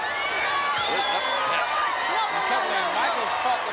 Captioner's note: crowd cheering